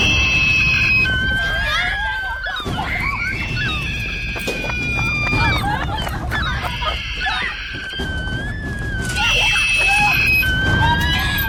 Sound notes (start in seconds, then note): 0.0 gull screeching; 2.3 children screaming; 6.6 gull squawking; 9.3 children screaming